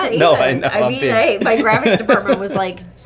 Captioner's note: laughs